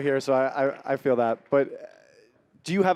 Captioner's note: applause